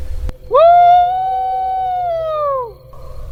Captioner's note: howls